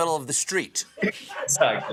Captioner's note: laughter